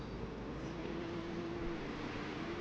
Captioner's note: none